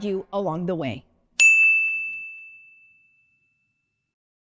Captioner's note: graphic tings